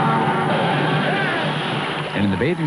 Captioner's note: monster roaring; man yelling